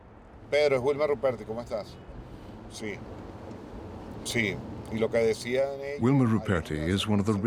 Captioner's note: speaking in Spanish